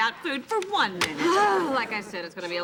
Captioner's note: groaning